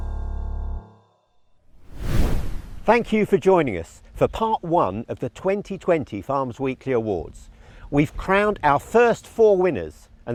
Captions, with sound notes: (air whooshes) - Thank you for joining us for part one of the 2020 Farmers Weekly Awards. We've crowned our first four winners,